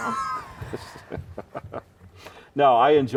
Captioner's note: laughing